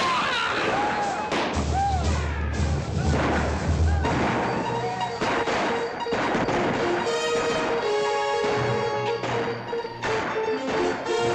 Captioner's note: dramatic music; commotion & gunshots